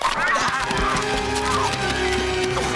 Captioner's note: book screeching